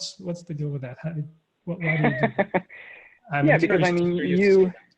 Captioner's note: laughing